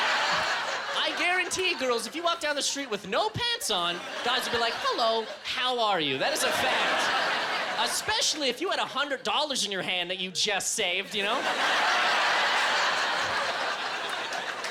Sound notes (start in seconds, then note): 12.4 applause